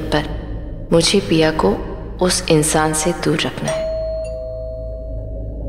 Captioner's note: Door bell rings